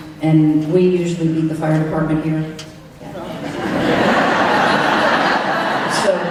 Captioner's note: laughter